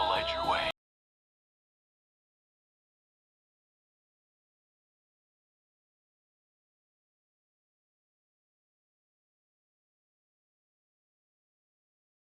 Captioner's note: audio Muted Due To Copyright Claim